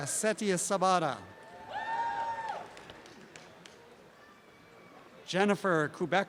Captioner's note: applause and cheering